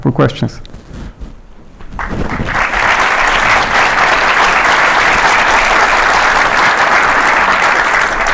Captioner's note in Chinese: 观众鼓掌